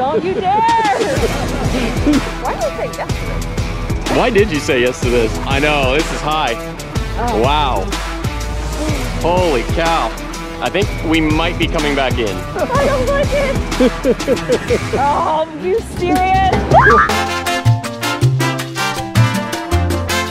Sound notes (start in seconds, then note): 14.3 laughing; 16.7 screams; 17.0 tropical music